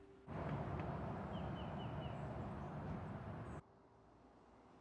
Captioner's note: birds singing